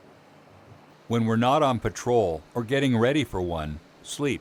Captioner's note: voiceover